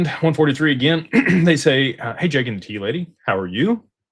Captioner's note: clears throat